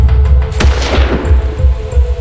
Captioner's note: gun Shot